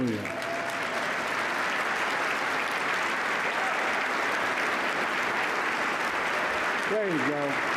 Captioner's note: applause